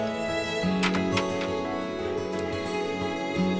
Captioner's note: Door opening